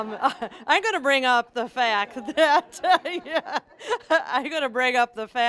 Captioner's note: audience laughing; laughing